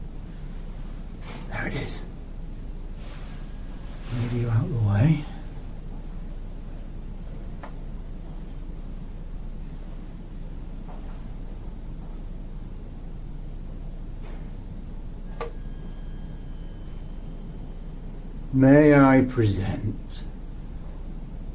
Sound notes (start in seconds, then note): 1.4 whispers